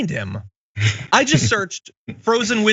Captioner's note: laugh